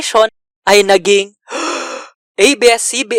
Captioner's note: breathe